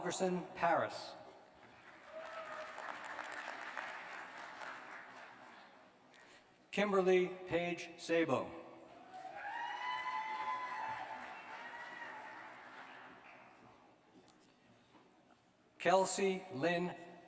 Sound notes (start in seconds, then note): 1.6 applause; 7.1 cheers and applause